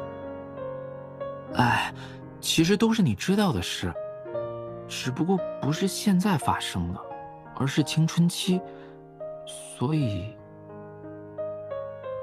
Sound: sigh

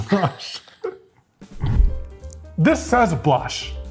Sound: both laughing

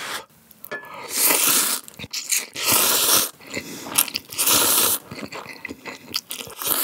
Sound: slurp

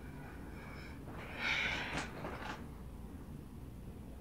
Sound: sighs restlessly

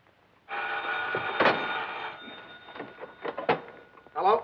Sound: phone ringing

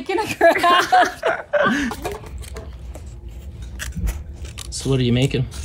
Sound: laughing

